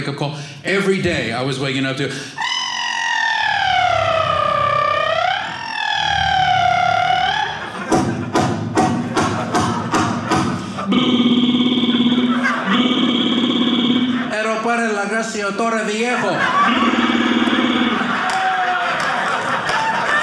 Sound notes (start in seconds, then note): 2.6 construction noises; 14.1 speaking Spanish; 16.6 construction noises